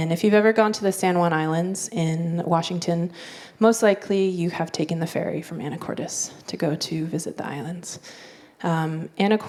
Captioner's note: none